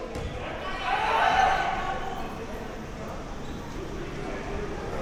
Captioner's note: spectators chattering